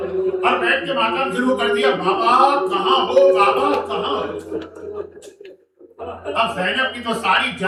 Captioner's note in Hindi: हंसी